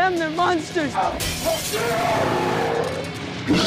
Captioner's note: glass shatters; growls